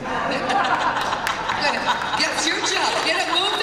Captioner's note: laughter